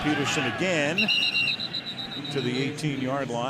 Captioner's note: whistle blows